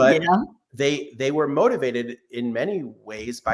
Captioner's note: laughs